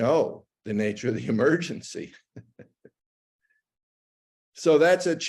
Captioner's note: chuckles